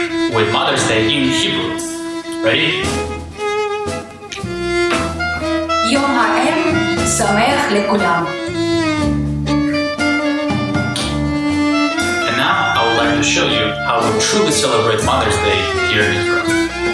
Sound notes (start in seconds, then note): 5.8 speaking Hebrew